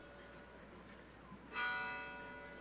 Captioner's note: none